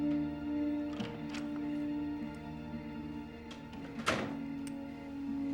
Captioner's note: door opening and closing; soft dramatic music